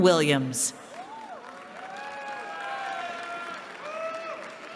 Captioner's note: cheering